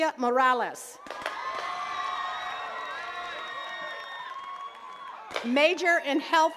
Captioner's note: attendees cheering and clapping